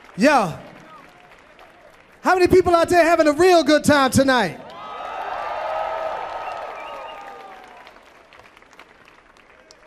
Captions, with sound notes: - Yo! How many people out there having a real good time tonight? [audience cheering]